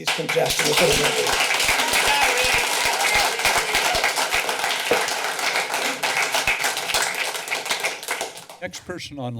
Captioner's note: clapping